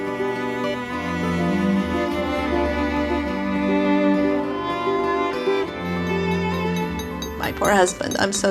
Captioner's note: tool tapping